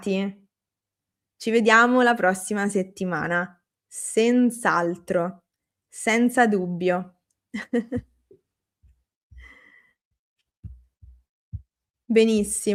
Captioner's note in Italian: risate